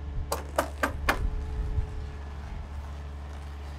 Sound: plastic ripping

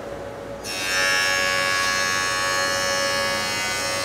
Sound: saw buzzing

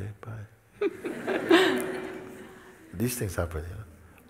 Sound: smijeh

